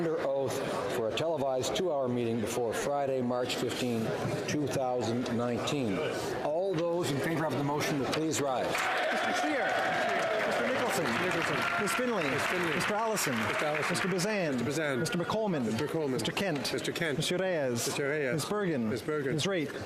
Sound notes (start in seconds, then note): 12.9 some Applause; 13.7 cheering